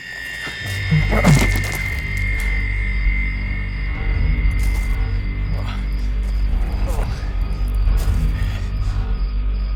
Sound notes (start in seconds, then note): 0.3 intense, dramatic music; 5.5 Kenny grunts